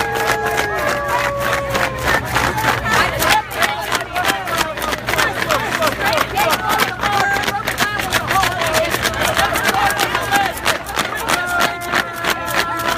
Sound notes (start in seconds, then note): 0.0 cheering and fan clapping